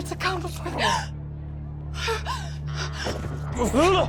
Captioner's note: gasping